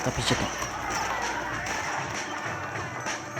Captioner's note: Mutant Spitter Explosion and Runner Zombie Scream